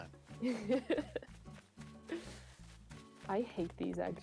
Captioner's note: laughing